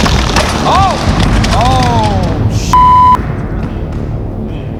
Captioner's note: beep; dramatic music